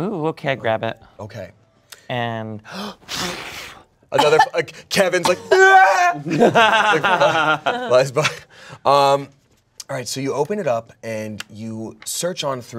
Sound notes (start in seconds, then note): 3.1 blows; 5.4 yells; 6.2 everyone laughs